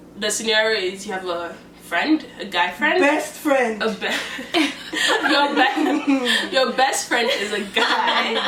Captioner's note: laughter